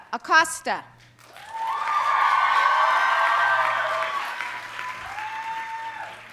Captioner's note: audience cheering and applauding